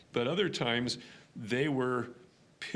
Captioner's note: none